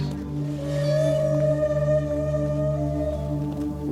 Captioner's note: whales calling; soft music